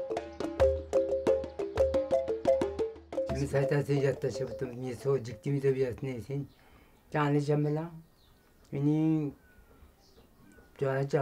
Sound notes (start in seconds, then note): 0.0 soft music; 3.5 speaking in foreign language